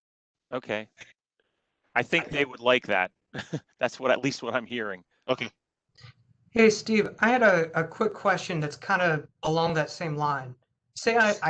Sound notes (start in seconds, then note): 3.3 laughter